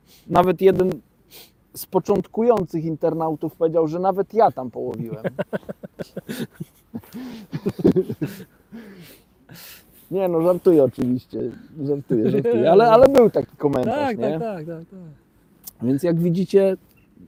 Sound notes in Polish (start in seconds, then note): 5.0 śmiech